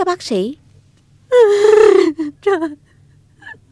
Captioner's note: crying